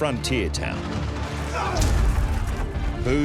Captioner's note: men brawling